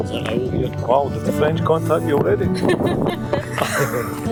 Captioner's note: laughter